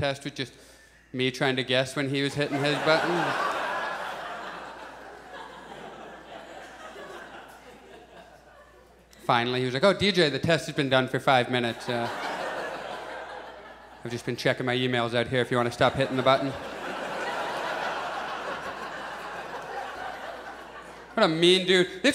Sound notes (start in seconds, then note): 2.2 audience laughs; 11.6 audience laughs; 15.6 audience laughs